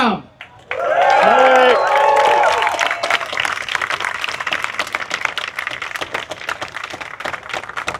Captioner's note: applause